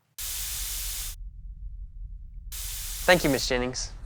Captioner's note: door hisses open